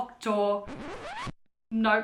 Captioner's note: radio scratch